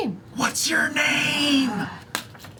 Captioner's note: whispers